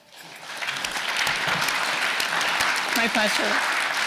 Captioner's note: audience applauding